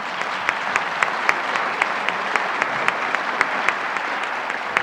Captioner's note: audience applauds